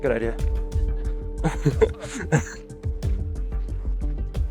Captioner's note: laughter